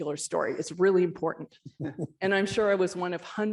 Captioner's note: chuckle